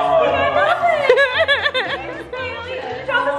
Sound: laughing

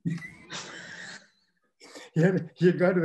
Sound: they laugh

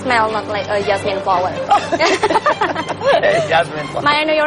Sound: laughs

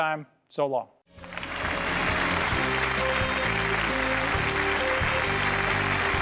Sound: applause with theme song

